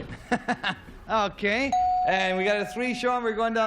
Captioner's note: laughs